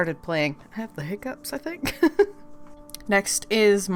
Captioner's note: laughs